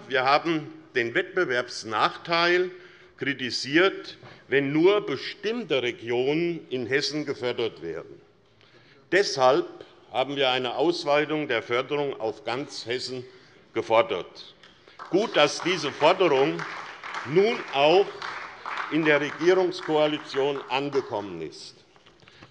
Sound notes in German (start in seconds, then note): 14.8 Beifall SPD